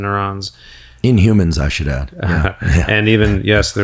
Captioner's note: chuckles